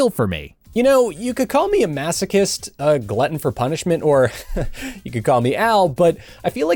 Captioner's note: chuckles